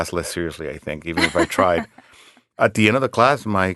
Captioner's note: laughing